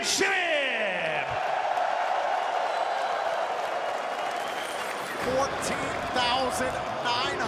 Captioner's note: cheers and applause